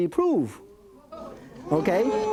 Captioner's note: audience oohs and murmurs